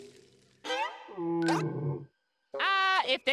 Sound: grunting

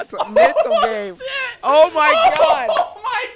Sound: laughs

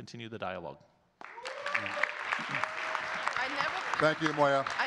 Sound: audience clapping and cheering

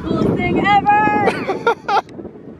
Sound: laughter

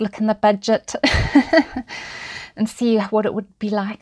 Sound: chuckles

